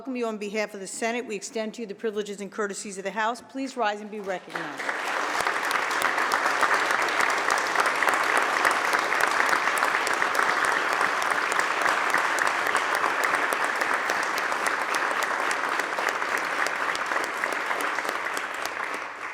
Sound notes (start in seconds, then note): 4.2 applause